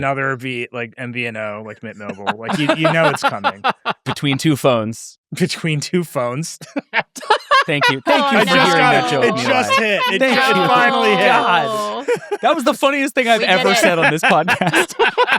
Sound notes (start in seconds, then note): 6.5 laughs